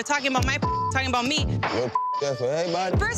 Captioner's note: beep